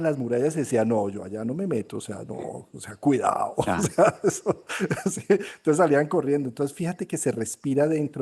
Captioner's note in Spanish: risas